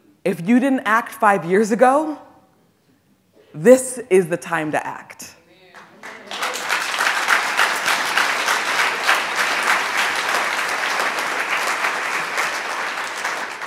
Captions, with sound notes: If you didn't act five years ago, this is the time to act. (audience applauds)